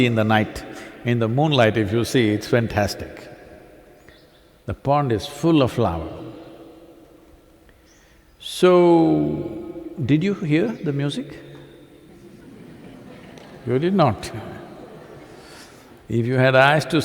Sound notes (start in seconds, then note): 12.1 laughter